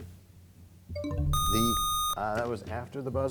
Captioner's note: bell chimes, time expires; buzzer sound